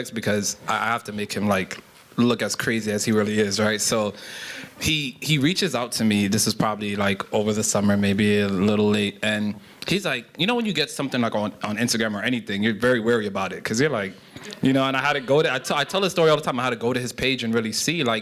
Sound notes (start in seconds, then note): 14.1 laughter